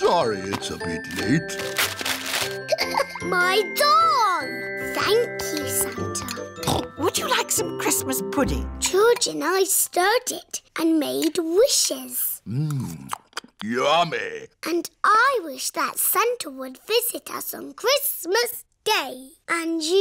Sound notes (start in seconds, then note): 2.7 laughs; 6.6 snorts